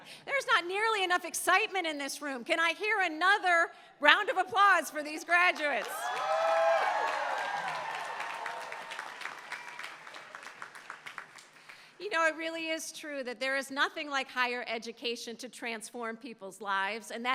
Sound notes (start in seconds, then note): 5.5 applause